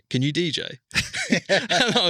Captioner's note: laughs